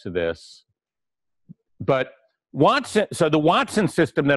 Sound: pause

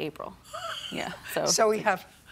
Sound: chuckles

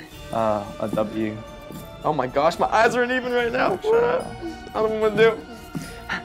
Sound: groans

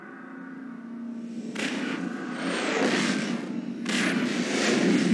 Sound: digitized landslide sounds

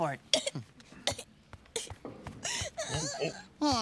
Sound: Leona sobbing

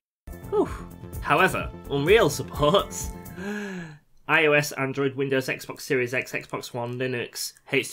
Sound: breath

